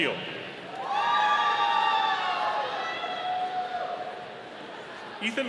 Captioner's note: audience cheering